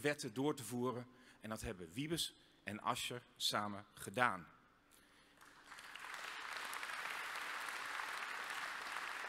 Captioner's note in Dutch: applaus